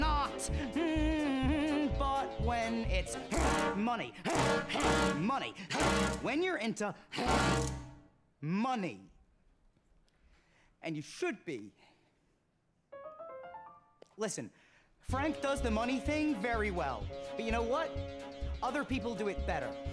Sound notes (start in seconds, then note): 4.2 grunting aggressively; 13.0 light piano riff plays